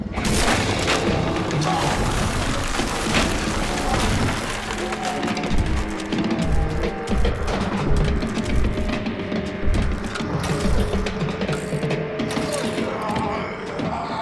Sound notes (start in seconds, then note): 0.3 door cracking; 6.8 zombie spartacus growling; 10.6 engine sputtering